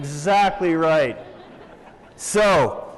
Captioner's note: laughter